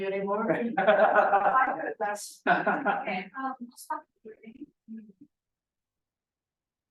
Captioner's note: laughter